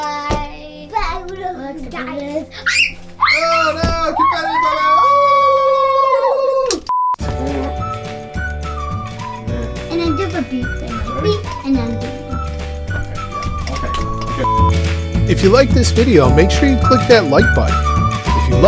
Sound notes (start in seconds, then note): 2.6 shrieks; 6.9 beeps; 7.8 upbeat music; 13.2 beeps